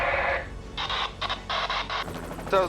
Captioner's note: static crackles